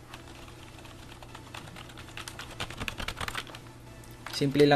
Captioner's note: typing intesifies